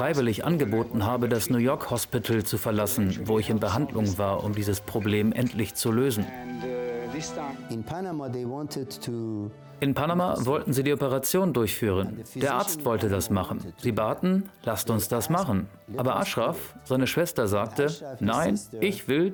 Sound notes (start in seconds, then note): 6.4 murmuring